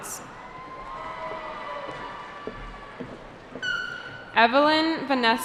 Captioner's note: cheering